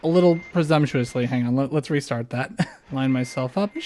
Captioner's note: laugh